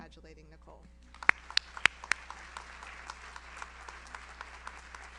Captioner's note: audience applauds